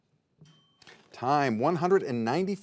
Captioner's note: bell ringing